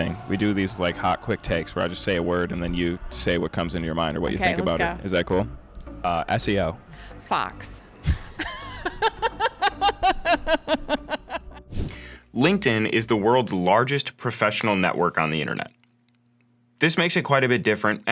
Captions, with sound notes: Quick thing, we do these like hot quick takes, where I just say a word, and then you say what comes into your mind or what you think about it. - Okay, let's go. - Is that cool. SEO. - Fox. (air whooshing) - LinkedIn is the world's largest professional network on the internet. This makes it quite a bit different